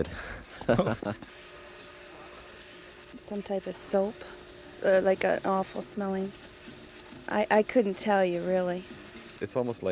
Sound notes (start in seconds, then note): 0.6 laughing